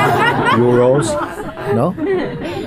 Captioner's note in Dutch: gelach